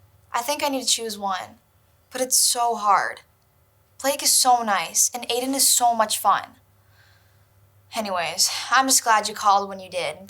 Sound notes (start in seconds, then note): none